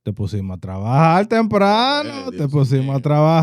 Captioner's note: speaking In Foreign Language